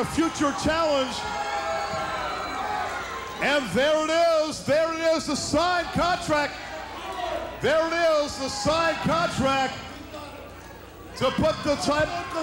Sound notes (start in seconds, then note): 4.2 crowd cheers